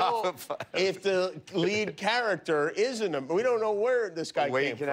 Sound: laughter

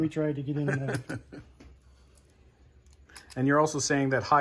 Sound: camera Man laughs

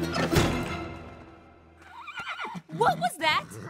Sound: whinny

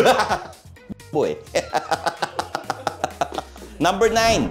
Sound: laughing menacingly; continues laughing

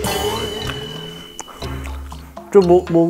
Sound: munching the rest

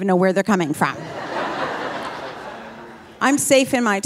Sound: audience laughing

